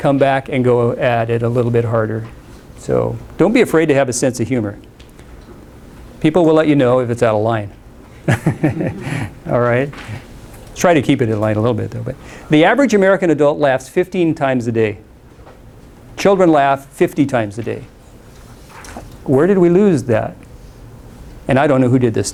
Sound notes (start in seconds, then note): 8.2 laughs